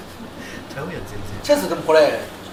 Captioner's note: laughs